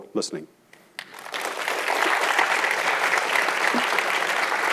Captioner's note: audience clapping